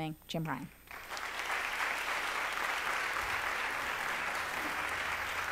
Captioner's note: applause